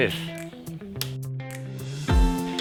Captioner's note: peppy music; slapping